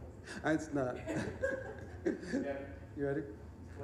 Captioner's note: audience laughing; both laughing